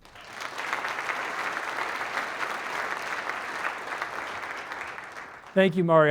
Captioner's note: applause